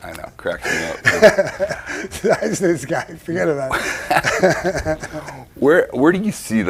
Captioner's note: Sammy laughs